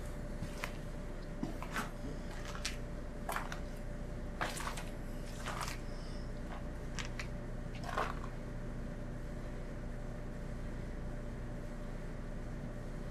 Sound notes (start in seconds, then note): 0.7 machine running